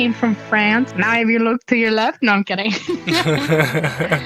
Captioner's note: both laughing